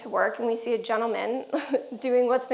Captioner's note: giggles